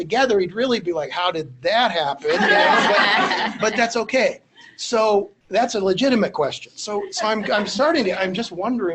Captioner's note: laughter